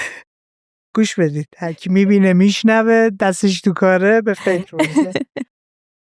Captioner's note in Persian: خنده